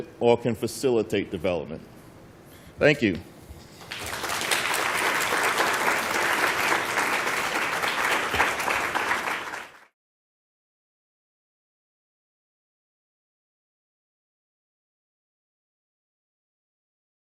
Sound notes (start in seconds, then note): 3.8 applause